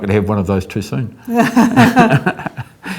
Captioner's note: laughs